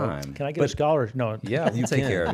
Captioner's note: laughs